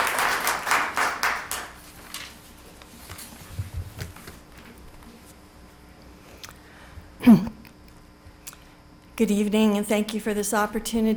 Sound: applause

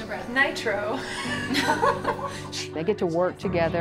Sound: laughs

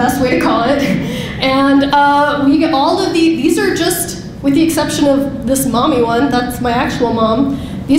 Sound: laughing

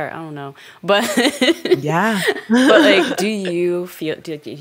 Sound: chuckles

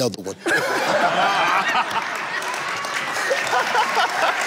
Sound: laughter

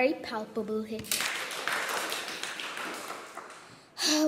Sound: crowd applauds

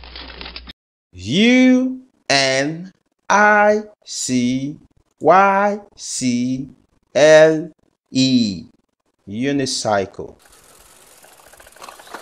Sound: unicycle Sound

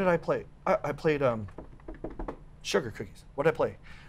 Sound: lips pop; knuckles tap

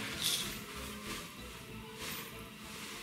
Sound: fabric rustles

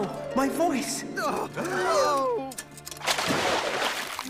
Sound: spectating swans gasping

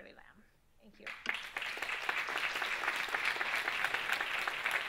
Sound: audience claps

